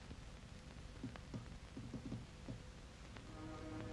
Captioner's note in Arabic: أصابع تدق بخفة; موسيقى مشؤومة